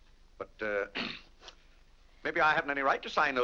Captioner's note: clears throat